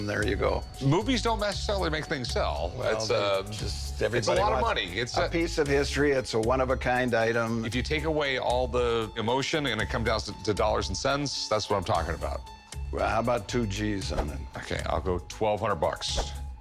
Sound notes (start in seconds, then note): none